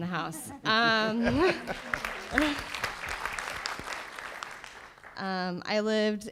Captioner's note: panelists laugh; audience applauds